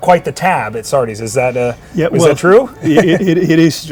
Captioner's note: chuckling